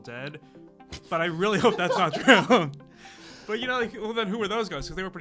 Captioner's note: laughs